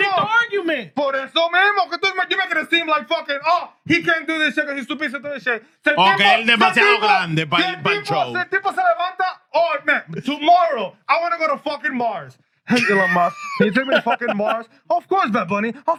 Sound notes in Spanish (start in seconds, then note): 0.0 Hablando en idioma extranjero; 6.0 Hablando en idioma extranjero; 13.3 Hablando en idioma extranjero